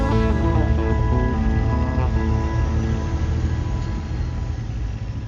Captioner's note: engine rumbling